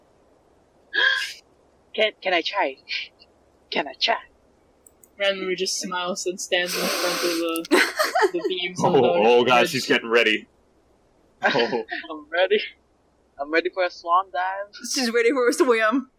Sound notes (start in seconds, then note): 1.4 gasp